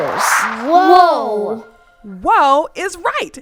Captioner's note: whoosh sound